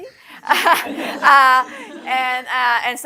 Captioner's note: laughter